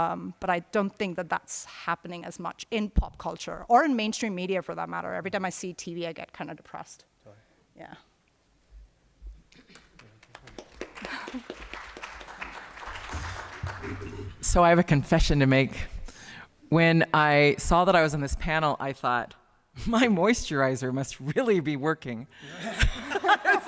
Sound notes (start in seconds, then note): 9.6 applause